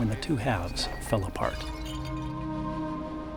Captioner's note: jug shattering